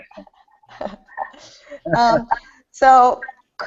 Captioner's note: laughing